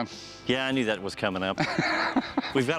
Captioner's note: laughs